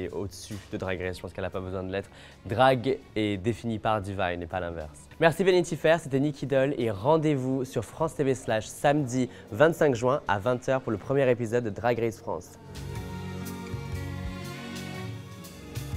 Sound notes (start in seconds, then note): 6.0 speaking French; 11.0 speaking French; 13.3 gentle music